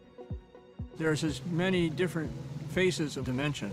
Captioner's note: voiceover